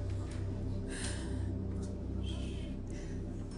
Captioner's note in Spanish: Sollozos